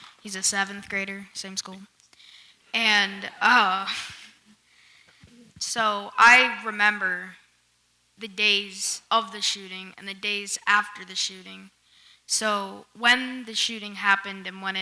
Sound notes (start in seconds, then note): 3.9 chuckles